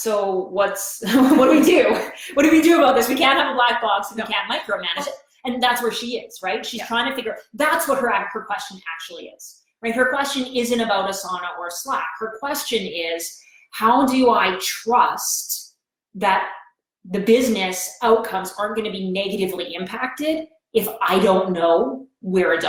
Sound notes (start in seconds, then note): 1.1 laughs